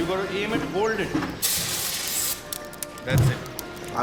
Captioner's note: liquid hissing